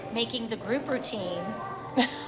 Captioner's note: chuckles